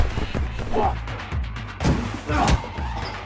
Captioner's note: blows thudding; both grunting; fist slams